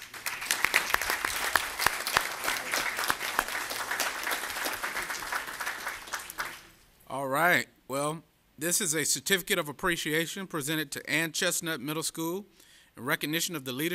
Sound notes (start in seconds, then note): 3.3 applause